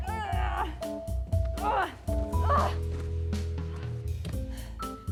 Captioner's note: Joan grunting